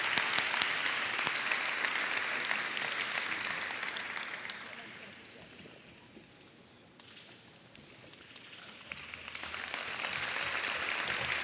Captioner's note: applause